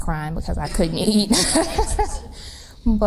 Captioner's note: laughs